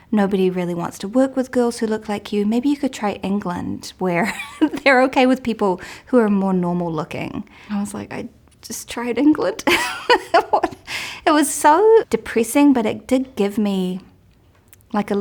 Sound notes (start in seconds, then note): 3.6 laughs; 9.7 laughs